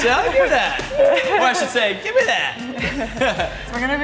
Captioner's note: laughs